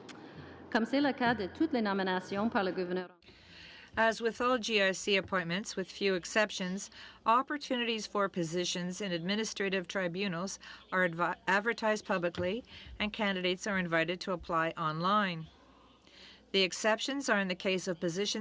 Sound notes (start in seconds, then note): 4.9 speaking french